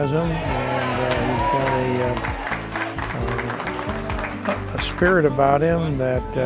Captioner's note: background cheering and applause